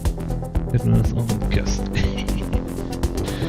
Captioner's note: laughs